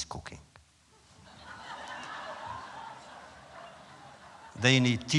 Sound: laughter

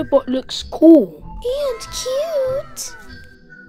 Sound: anime wow noise

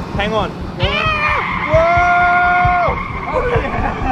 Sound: tires screeching

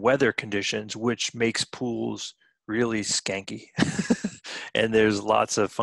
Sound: chuckling

